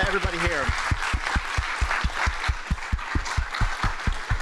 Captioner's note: applause